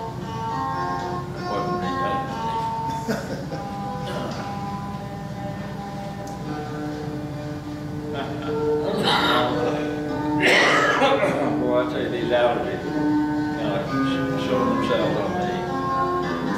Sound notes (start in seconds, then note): 2.8 chuckles; 10.4 coughs